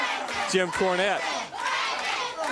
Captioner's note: crowd chatter